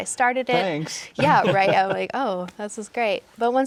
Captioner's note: all laughing